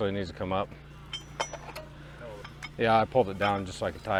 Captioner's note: metal clanks